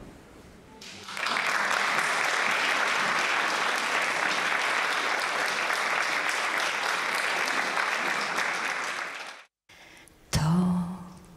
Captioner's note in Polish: oklaski